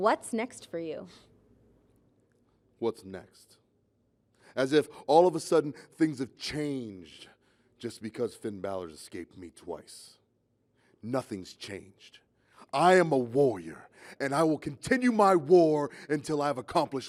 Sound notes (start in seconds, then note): none